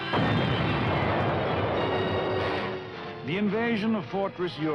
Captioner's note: artillery booming